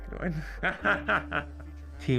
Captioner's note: laughs